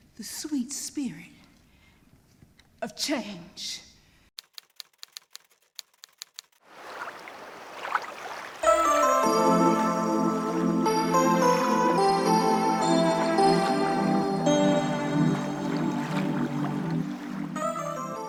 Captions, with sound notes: the sweet spirit of change. (keyboard keys clicking) (water rippling) (bright music)